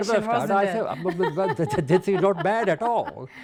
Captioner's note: laughs